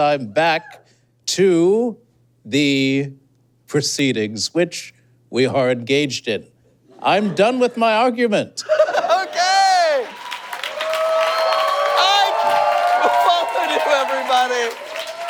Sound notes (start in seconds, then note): 8.6 laughs; 9.0 audience cheers and applauds